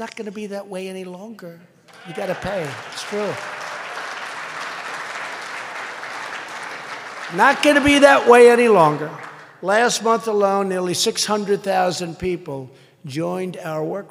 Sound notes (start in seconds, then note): 1.9 applause